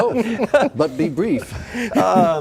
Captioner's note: laughing